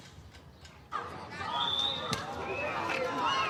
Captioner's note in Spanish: gritos y silbidos; gritos